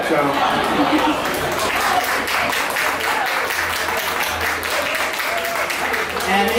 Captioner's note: applause